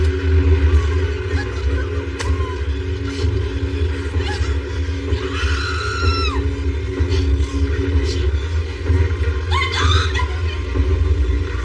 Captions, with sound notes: Let me g go! (womanan screams) Let gogo of me!